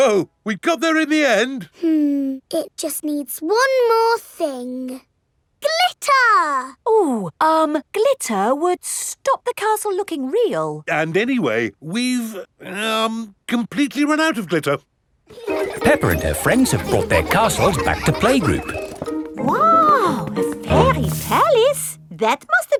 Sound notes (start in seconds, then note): 15.3 children laughing